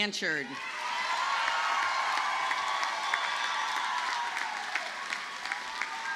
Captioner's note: audience cheers and applauds